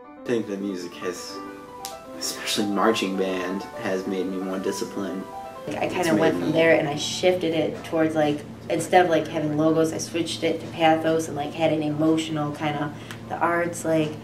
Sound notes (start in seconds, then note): 5.7 speaking overlaid with “ ”